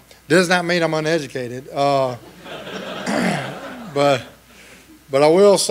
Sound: laughing

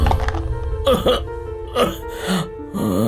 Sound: coughs

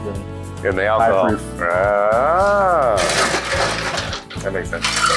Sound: mumbles

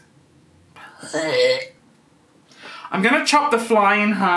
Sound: imitates dry retching

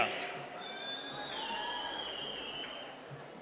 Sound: cheering

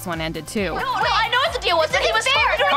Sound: screaming over each other

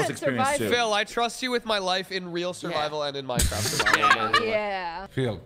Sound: laughing

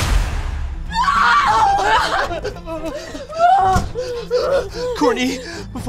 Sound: screaming x2

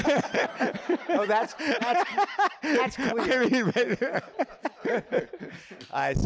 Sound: laughter

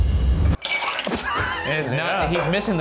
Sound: laughs

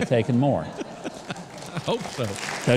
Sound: laughing

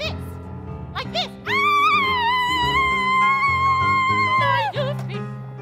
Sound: witch screaming

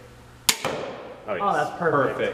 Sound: arrow thuds against target

